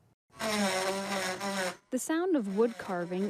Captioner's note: tool whirring